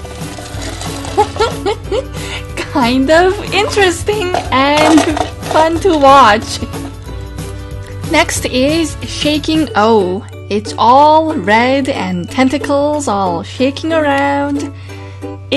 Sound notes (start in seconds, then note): 0.1 background music; 1.1 laugh; 6.3 background music